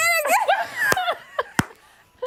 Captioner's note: laughter